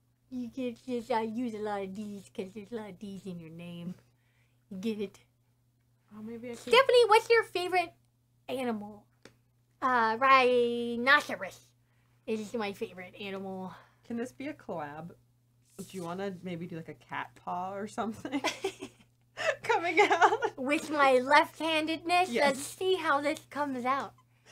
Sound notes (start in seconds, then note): 18.3 both chuckle